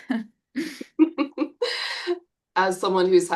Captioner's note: chuckles